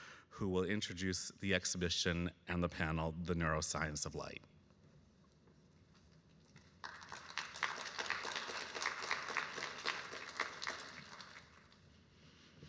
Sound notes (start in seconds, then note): 6.6 audience clapping